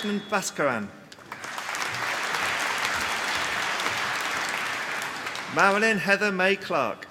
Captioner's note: applause